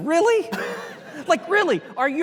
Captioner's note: audience laughing